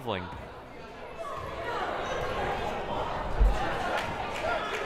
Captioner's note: crowd murmuring